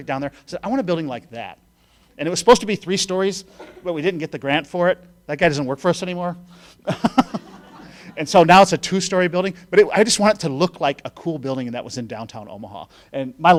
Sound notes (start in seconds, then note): 6.9 laughing